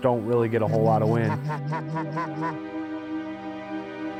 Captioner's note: goose calls